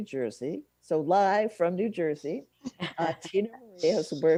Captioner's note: laughs